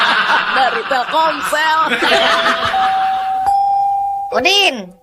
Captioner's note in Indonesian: tertawa